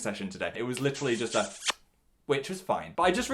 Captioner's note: lips smacking